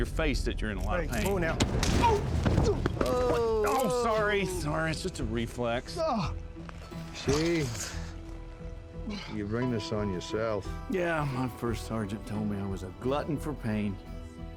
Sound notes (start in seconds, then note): 1.6 punch; 3.3 scottish accent; 7.7 scottish accent